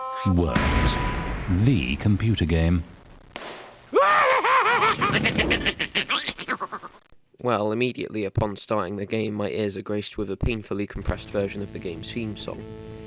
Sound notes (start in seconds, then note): 3.1 bang; 4.0 deranged maniac laughter followed by gibberish